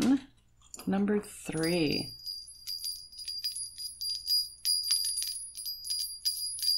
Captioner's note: small bells jingle